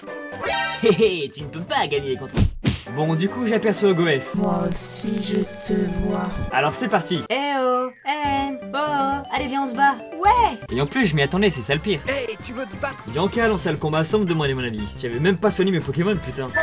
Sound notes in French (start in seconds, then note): 2.4 pouf ! paf!